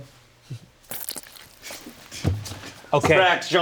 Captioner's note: hands squelch